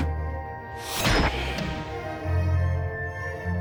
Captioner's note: box scraping; door sealing; trash ejecting